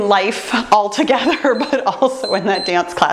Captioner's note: timer beeps